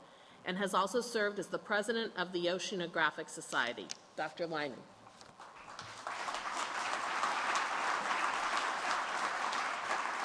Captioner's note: applause